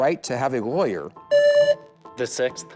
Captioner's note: buzzer